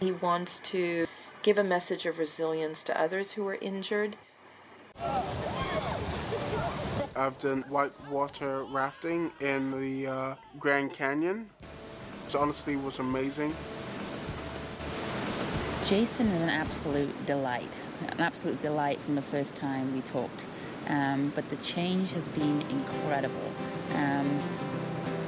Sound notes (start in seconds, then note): 4.9 water rushing; 5.0 people exclaiming; 14.7 water rushing